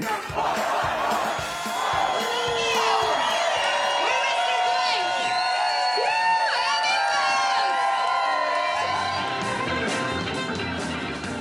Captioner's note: crowd cheering